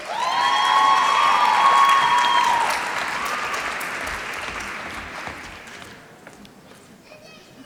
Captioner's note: applause